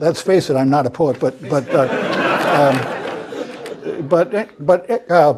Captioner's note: laugh